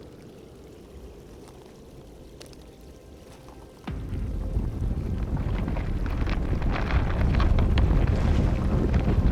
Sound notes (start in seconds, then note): 2.2 ominous music; 3.8 ground rumbling